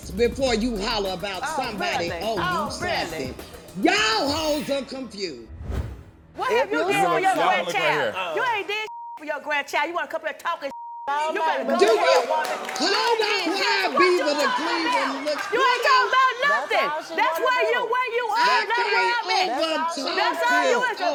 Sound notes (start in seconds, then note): 8.8 beep; 10.7 beep